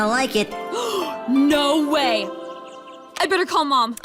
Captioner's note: gasps